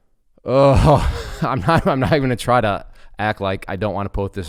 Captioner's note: chuckles